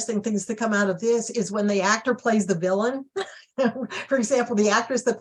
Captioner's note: chuckles